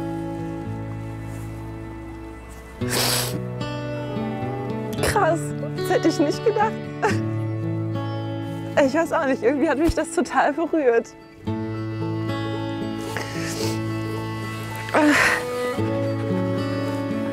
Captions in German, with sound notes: *Sie schluchzt.* Krass, das hätte ich nicht gedacht. Ich weiß auch nicht, irgendwie hat mich das berührt. *Sie seufzt.*